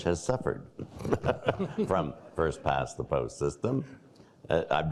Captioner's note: laughing